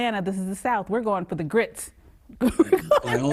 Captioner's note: lauhgs